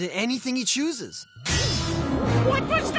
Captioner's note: bang!